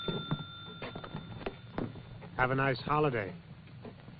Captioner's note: clock ticking